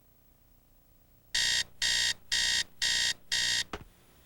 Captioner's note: alarm buzzing